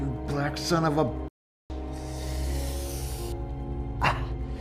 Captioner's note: hisses